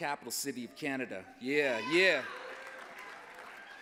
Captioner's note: applause